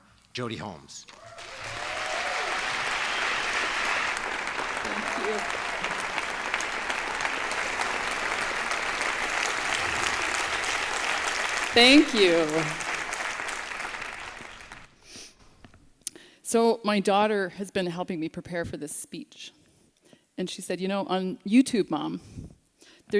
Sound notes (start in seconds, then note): 2.4 applause